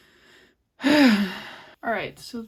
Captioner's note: sigh